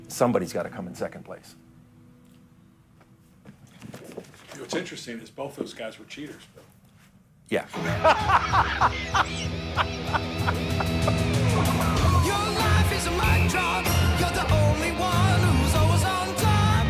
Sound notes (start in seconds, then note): 7.7 laughing; 10.5 rock music